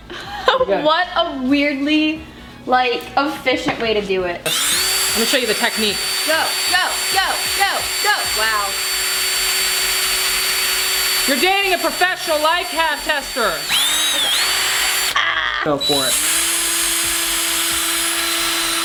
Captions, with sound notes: - What a weirdly like efficient way to do it. - We'll show you the technique. - Go, go, go, go. Wow. You're dating a professional life haz tester. - (screams) - Go for it.